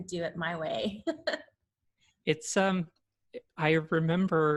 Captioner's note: chuckles